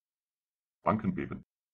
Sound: fast Pronunciation

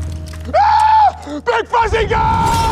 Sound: officer yells

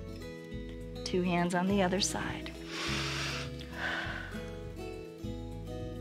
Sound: inhales and exhales

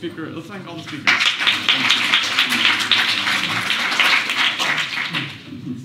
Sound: applause

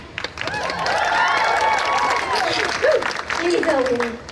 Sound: applause

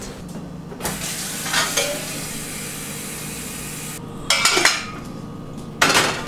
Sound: kitchen noise

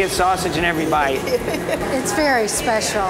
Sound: lady giggles

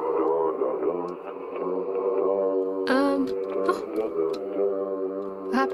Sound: very ominous noises

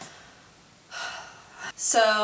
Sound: sighs

